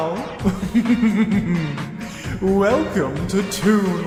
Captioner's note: gay laughter